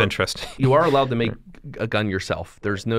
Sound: chuckle

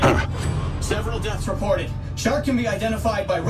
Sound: grunts; man On Radio

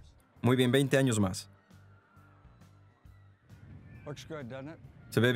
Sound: children screaming

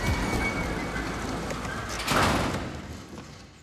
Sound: engine stops

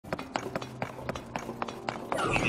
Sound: walking sounds; confused construct sounds

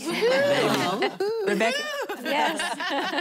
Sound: laughing

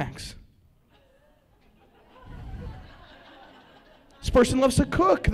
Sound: laughter

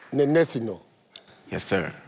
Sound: none

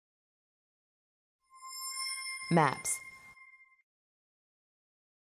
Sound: electronic chime sound

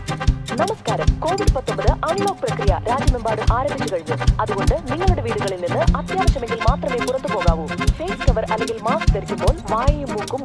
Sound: covid awareness dialertone

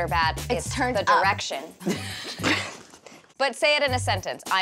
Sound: laughing

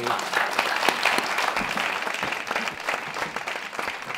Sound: clapping

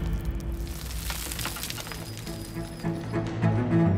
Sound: fluttering

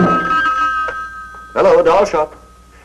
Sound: dramatic music; phone rings

